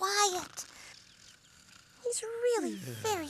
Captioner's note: snoring